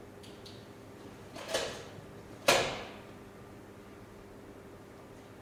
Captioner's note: flashlight clicks off, door opens